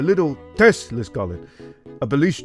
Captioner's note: inhales